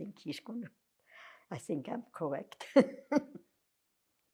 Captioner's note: laughing